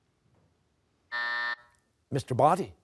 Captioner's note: buzzer